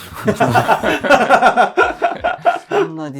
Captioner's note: laughing